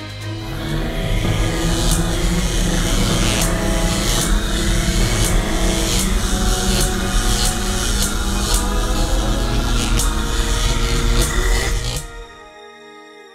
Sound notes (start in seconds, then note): 0.2 electric buzzing